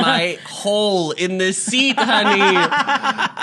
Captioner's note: laughs